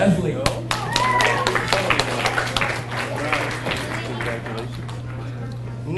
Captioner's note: audience cheers and applauds